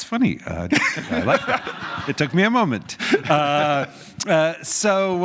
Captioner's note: laugh